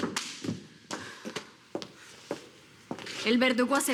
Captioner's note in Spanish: Se oyen pasos